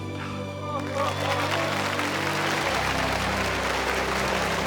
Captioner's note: crowd applause